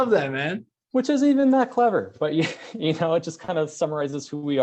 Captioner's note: laughs